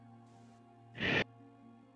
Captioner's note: Krel deep exhale